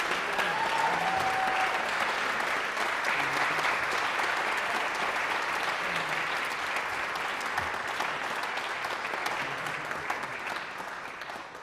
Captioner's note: applause